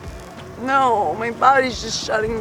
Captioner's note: crying